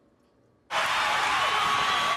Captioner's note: loud cheering